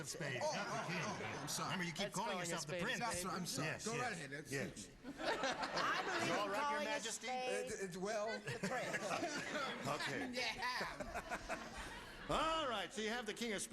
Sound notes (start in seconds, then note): 8.3 chuckles